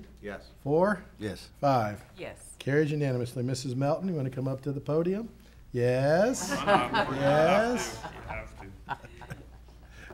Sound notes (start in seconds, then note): 6.4 audience laughing